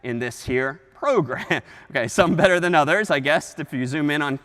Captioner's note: chuckles